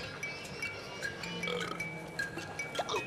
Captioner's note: belching